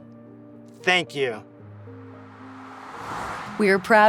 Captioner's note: air whooshes